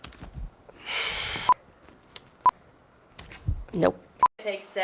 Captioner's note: sighs